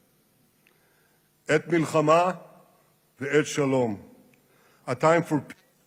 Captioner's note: speaking Israeli